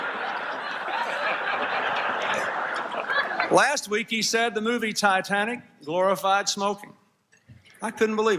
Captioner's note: laughter